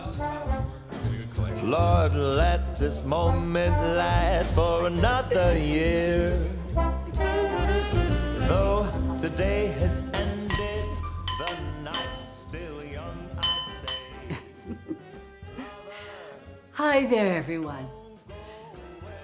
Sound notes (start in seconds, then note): 10.6 glass clinking; 14.7 Charlotte laughs